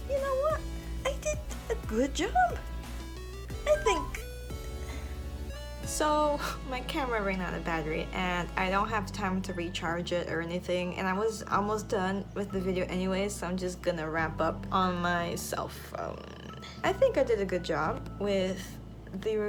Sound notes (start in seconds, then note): 4.8 sigh